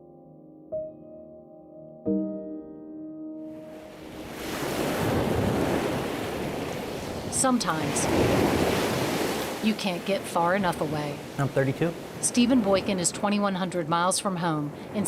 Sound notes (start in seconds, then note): 0.0 solemn piano music; 3.6 waves crashing